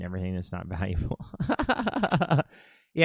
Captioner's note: laughing